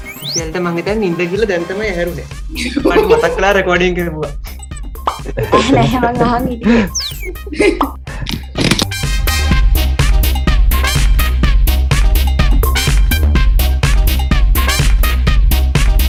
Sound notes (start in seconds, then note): 2.4 laughs; 7.6 laughs